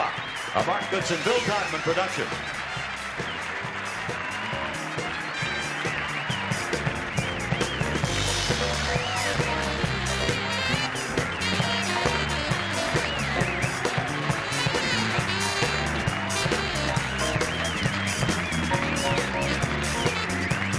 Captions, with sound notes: the clock, a Mark Goodson, Bill Todman production. [applause]